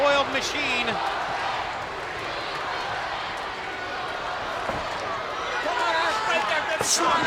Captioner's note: crowd cheering; blows thudding